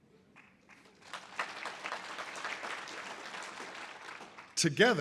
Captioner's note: audience applause